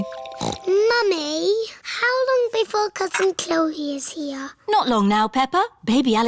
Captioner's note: snorts